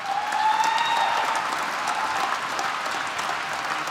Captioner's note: applause